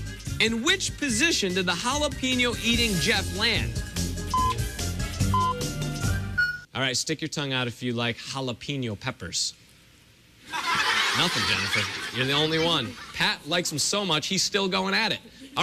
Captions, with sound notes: IN WHICH POSITION DID THE JALAPEÑO-EATING JEFF LAND? [electronic beeping] ALL RIGHT, STICK YOUR TONGUE OUT IF YOU LIKE JALAPEÑO PEPPERS. [laughter] NOTHING, JENNIFER. YOU'RE THE ONLY ONE. PAT LIKES THEM SO MUCH, HE'S STILL GOING AT IT.